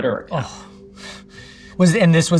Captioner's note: sighing